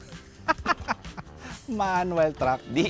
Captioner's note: laughs